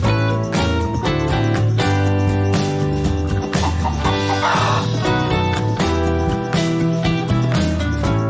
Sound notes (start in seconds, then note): 3.7 rooster crows